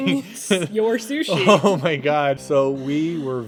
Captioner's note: laughing